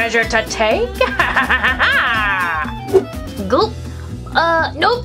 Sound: hook laughs

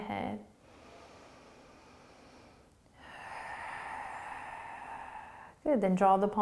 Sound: deep breathing

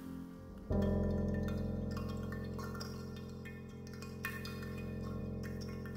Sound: falling water drops

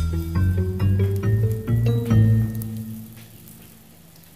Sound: fire crackling

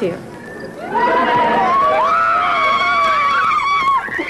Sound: children screaming

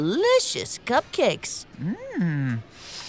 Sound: sniffing

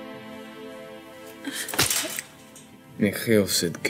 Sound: slapping

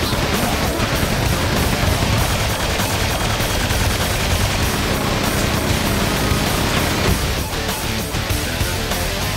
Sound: epic Heavy Metal Music; rapid gunfire; epic Heavy Metal Music

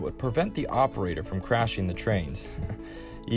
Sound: chuckles

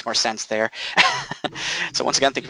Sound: laughing

